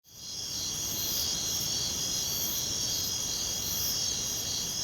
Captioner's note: crickets chirping